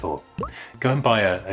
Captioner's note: pop!